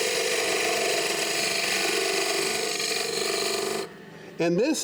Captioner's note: chisel scraping on the wood